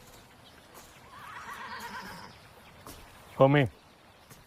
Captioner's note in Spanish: Relinchos